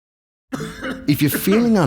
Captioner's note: man coughs